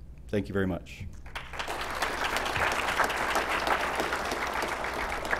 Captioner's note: applause